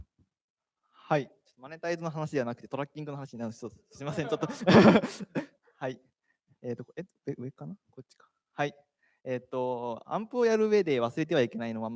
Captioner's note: speaking japanese